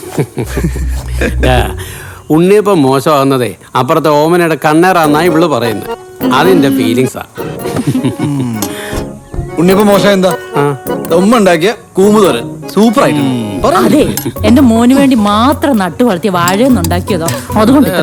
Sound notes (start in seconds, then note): 0.1 laughing; 7.7 all laughing